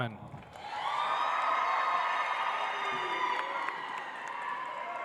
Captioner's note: audience applauds